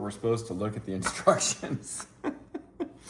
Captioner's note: laughs